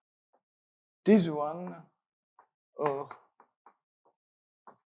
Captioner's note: chalk taps